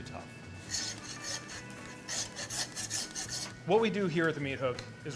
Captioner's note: sawing sounds